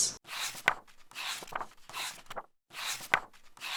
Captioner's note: pages turning